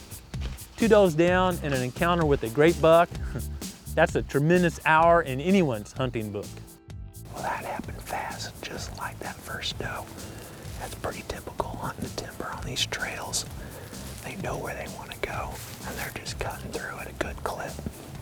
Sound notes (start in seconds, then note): 7.0 whispering